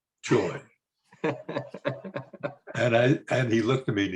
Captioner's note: laughs